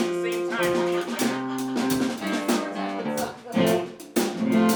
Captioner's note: people laughing; instruments continue warming up